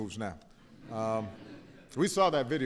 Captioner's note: laughter